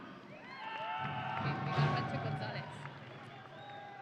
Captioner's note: audience cheering